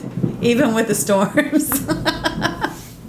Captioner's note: laughs